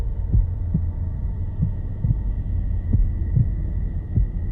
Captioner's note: heart beating